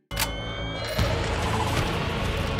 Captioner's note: random sentinel noises